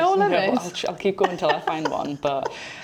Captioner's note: laughs